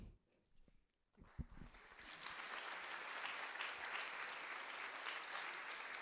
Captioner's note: audience applauding